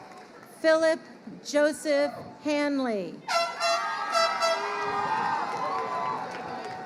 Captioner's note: horn blows